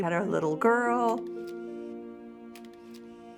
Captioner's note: camera shutter clicking